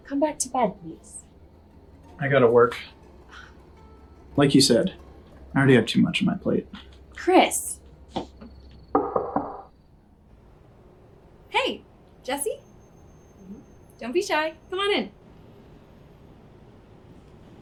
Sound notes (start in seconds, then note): 8.9 door knocking